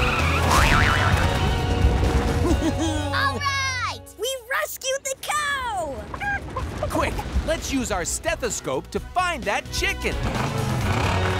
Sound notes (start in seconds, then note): 2.1 cheering; 5.6 clucking